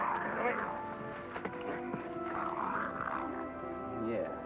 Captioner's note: triumphant music; possum growls